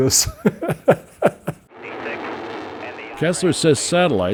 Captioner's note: laughs